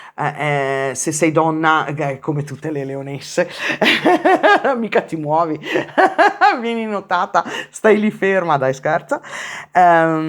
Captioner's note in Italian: risate